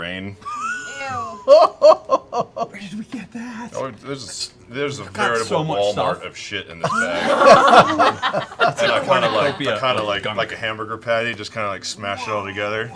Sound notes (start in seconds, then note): 6.8 laughter